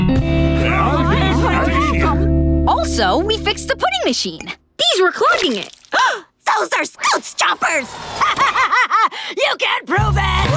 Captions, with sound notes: [clamoring] Also, we fixed the pudding machine. These were clogging it. [gasping] Those are Scoots' chompers! [laughing] You can't prove it!